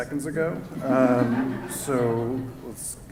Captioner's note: laughter